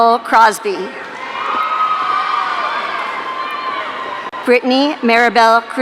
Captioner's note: audience cheering